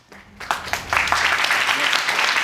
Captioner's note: applause